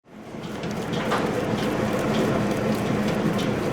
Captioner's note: whirring mixer